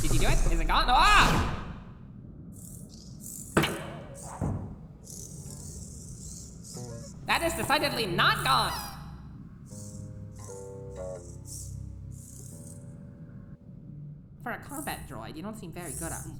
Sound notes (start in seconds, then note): 3.5 bonk; 8.6 squee